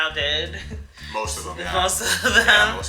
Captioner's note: laughs